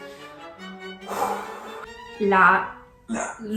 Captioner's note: exhales deeply